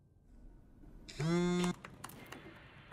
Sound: phone vibrates

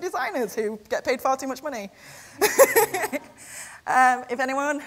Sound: laughs

